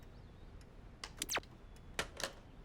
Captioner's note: tv turns off